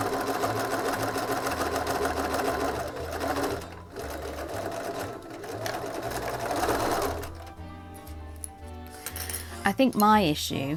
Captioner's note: sewing machine whirring